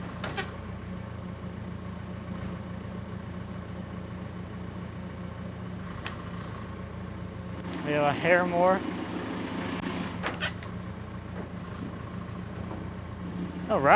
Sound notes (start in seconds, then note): 0.5 log rubbing against metal; 1.9 engine running calmly; 10.5 log rubbing against metal